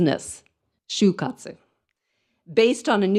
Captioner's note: speaks in foreign language